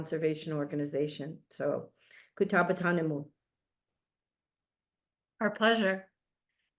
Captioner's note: speaks in foreign language